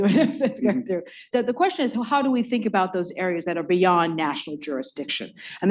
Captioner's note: laughs